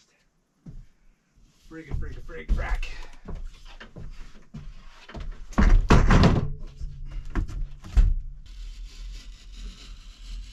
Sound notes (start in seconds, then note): 5.2 thuds; 9.4 thuds